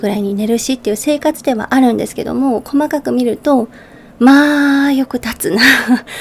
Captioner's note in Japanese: 息をのむ音